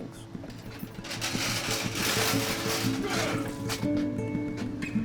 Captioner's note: slop bucket being moved; light music